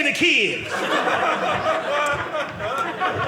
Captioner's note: audience laughing